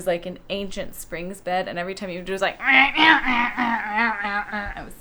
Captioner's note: loud squeaky bed noises